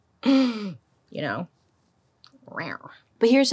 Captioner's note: chuckles; growls gently